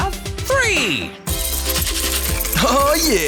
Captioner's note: rattling